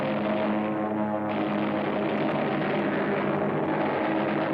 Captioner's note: heavy gunfire; airplanes rumbling